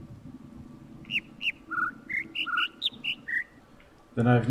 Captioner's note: overlapping birds chirping, ˥ ˥ ˩ ˧ ˩